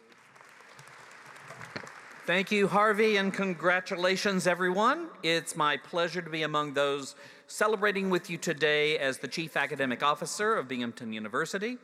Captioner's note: applause